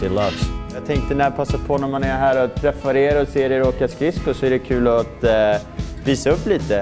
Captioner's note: hockey player speaking in foreign language